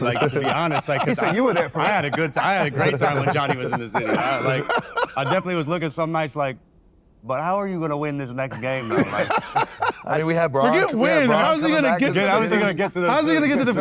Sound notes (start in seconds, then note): 4.6 laughs